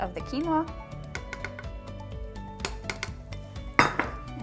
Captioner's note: tapping